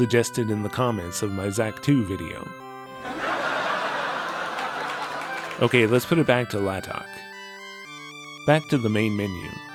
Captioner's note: canned laughter